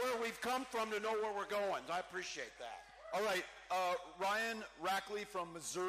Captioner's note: cheering